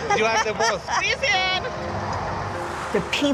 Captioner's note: person speaking in Spanish